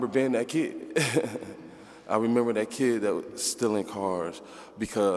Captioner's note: laughs